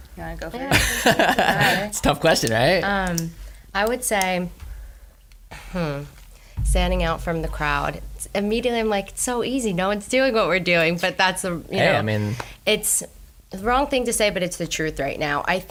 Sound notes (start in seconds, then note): 0.7 laughs